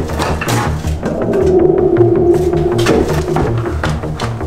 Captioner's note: ghost sound